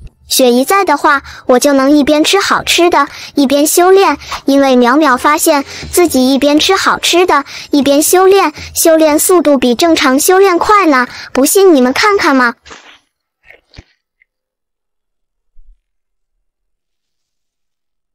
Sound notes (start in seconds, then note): none